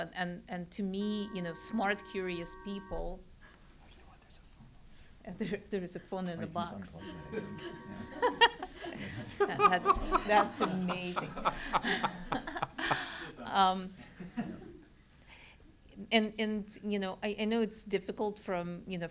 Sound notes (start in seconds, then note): 6.9 laugh